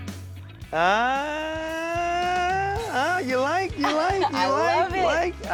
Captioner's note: laugh